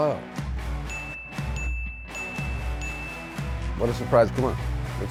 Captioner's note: bell dinging